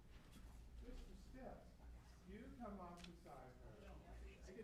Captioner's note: chatter